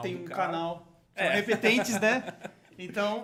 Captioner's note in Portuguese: risos